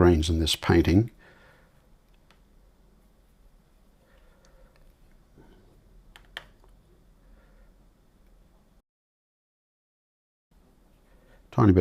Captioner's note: silence